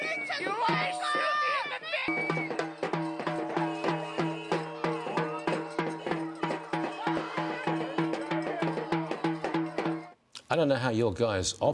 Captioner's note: shouting